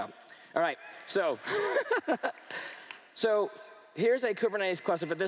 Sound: laughs

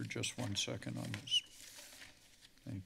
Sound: papers flipping

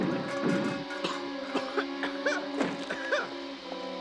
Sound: coughing

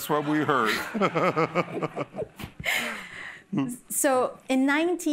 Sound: laughter

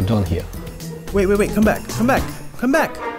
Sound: voiceover

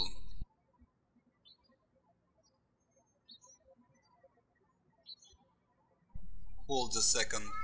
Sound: bird chirping

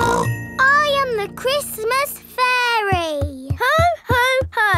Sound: snorts

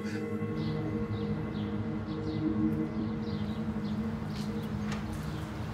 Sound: birds chirping

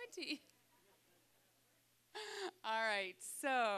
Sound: laughing

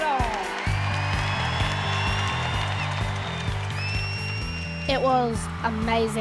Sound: crowd cheers

